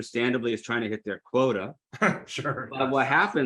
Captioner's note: laughs